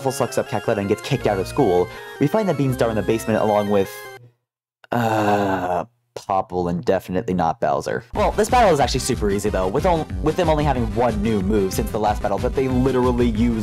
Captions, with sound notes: sucks up Cackletta and gets kicked out of school, we find the beanstar in the basement along with *sigh* Popple and “Definitely not Bowser”. Well, this battle is actually super easy though, with them only having one new move since the last battle that they literally